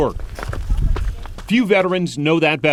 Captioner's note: footsteps